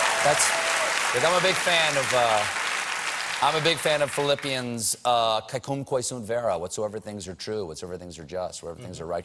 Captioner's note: cheers and applause